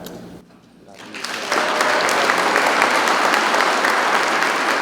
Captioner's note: people clapping